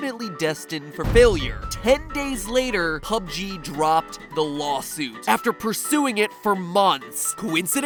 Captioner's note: boom